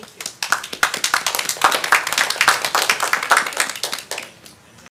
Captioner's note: applause